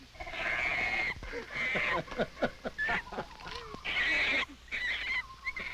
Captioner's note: monkey shrieking; group chuckling